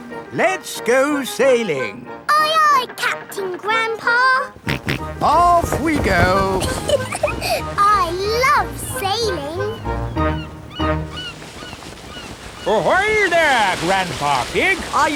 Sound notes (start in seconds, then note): 4.5 snorts; 4.6 giggles